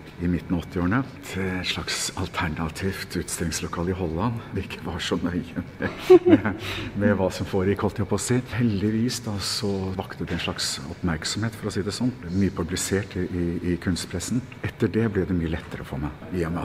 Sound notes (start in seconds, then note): 5.8 haha